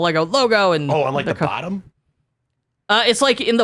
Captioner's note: laughs